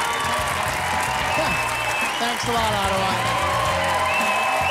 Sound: applause, cheering

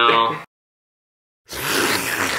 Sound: slurping

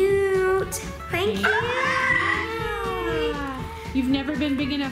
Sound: squealing

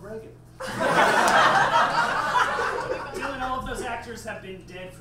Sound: audience laughs

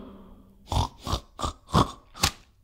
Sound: snort! Snort! Snort!; slap!

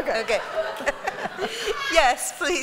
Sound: laughter

